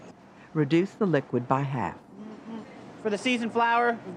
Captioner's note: voiceover